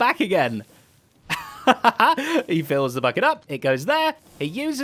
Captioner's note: laughs